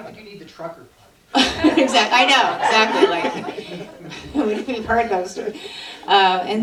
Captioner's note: laughter